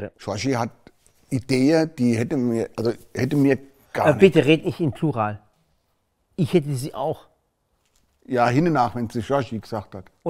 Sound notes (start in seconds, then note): none